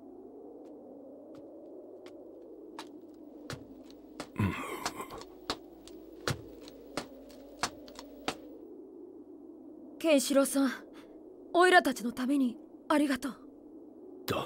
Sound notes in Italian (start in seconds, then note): 2.7 passi in avvicinamento